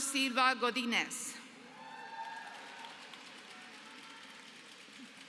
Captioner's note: applause